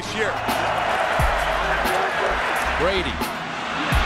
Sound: crowd cheering

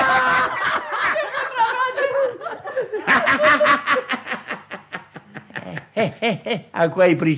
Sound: all laugh uproariously

